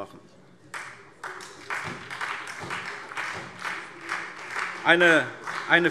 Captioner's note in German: Beifall SPD